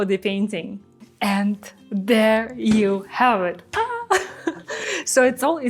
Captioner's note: chuckles